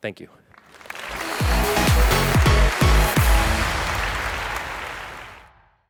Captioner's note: audience applauds